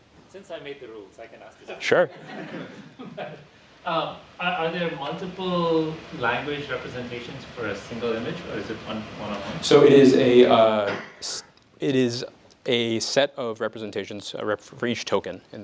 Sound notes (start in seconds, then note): 2.1 laughter